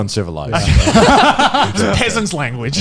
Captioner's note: laughing